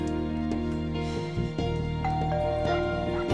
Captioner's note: doorbell ringing; max barking